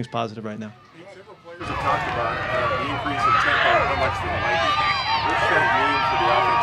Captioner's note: crowd cheering drowns out interviewer